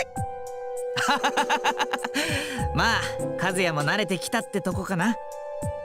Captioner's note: laugh